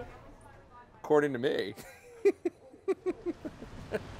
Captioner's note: laughs